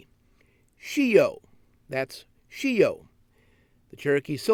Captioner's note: speaking cherokee